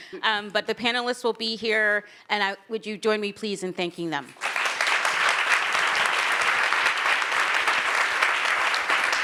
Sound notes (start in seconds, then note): 4.3 attendees clapping